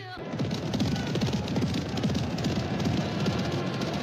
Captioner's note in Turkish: atlarin nal sesleri̇